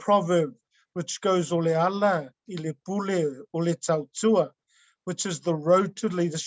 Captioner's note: speaking in foreign language